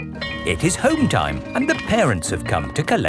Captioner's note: bell tolling